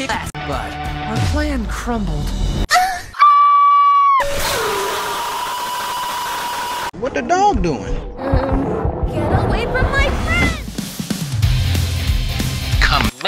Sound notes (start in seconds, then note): 2.7 anime girl moan; 3.1 Adventure Time Finn scream; 3.1 Femur Breaker scream